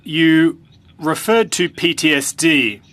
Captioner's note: speaking French